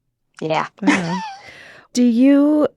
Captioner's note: both speakers lauging